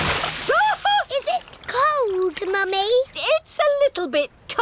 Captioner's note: shrieks